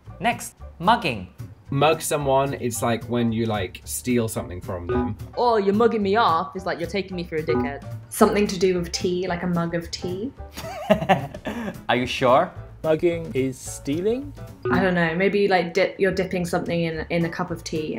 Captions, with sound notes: - Next, mugging. - Mug someone, it's like when you, like, steal something from them. (bell beeping) - "Oh, you're mugging me off," is like, "You're taking me for a dickhead." - Something to do with tea, like a mug of tea. - (laughs) Are you sure? - Mugging is stealing? - I don't know. Maybe you're dipping something in a cup of tea